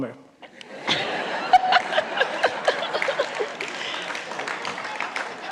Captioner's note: laughter